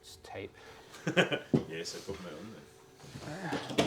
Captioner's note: laughing